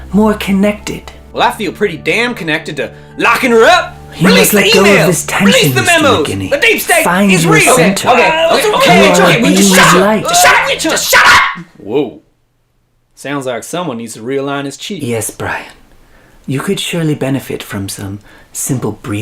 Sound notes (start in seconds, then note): 7.4 arguing